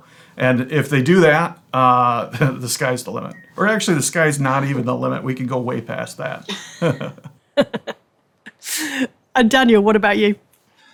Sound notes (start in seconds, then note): 6.4 laughs